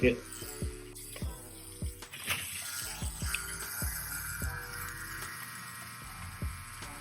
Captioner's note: slow groovy music; tattoo gun buzzing